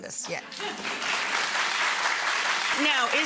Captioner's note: audience applause